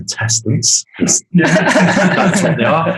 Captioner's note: group laughing